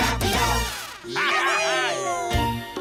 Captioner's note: excited cheers